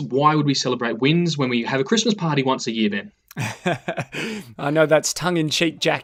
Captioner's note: laughs